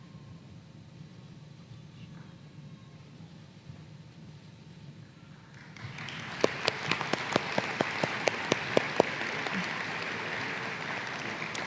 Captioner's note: applause